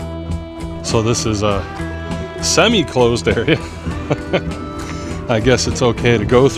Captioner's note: chuckling